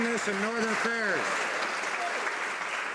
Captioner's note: some Applause